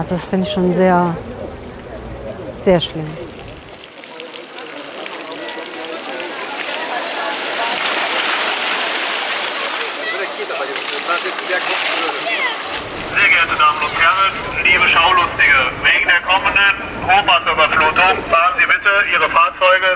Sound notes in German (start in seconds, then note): 3.1 Wasserplätschern